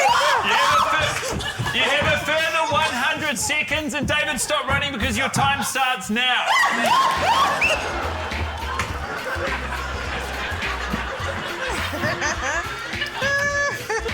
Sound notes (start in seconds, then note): 0.0 shrieks; 9.0 shrieks; 10.1 laughter; 11.9 urzila laughs